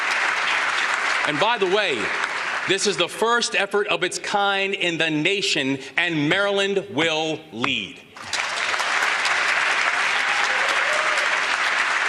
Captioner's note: applause